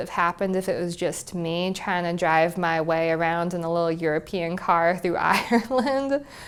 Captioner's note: laugh